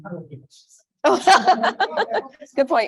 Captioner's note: laughs